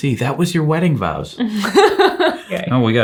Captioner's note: chuckles